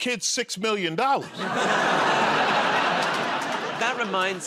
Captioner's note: laughter